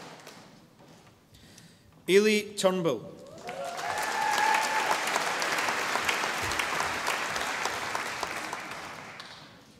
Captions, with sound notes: Eilidh Turnbull. (audience applauding)